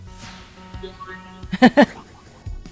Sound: laughs

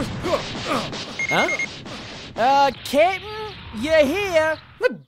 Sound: Scouter beeps

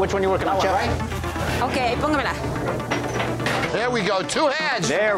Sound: speaking Spanish

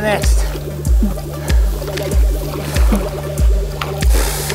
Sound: puffing

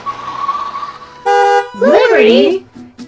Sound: horn honking

